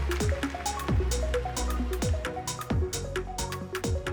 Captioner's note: applause, upbeat music